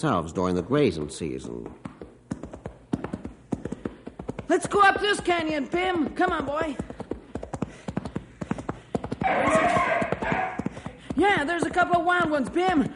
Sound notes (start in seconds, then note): 9.2 bim cheering